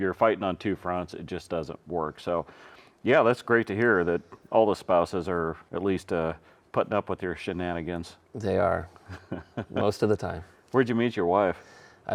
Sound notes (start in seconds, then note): 9.0 host chuckling